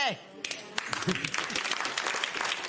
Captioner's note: applause